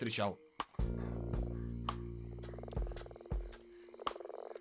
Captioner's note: croaking